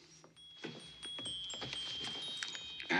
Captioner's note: clock chimes